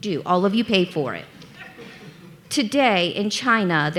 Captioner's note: audience laughing